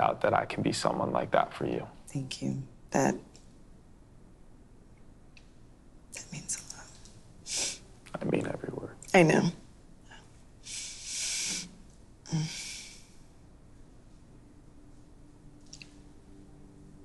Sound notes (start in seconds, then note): 10.7 sniffles; 12.3 groans softly